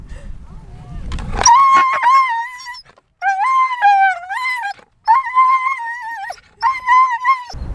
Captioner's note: Caesar is howling